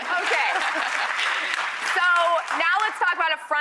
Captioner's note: audience applause